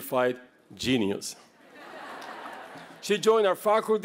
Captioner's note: laughter